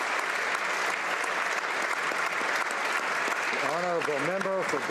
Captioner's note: applause